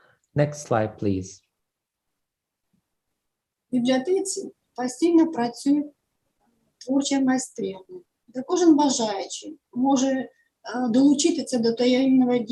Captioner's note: foreign Language